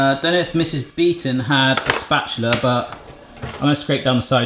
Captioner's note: none